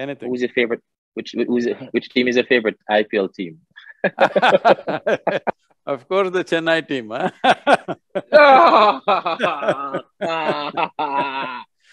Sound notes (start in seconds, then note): 3.8 both laugh; 7.7 laughs; 10.5 Sadhguru laughs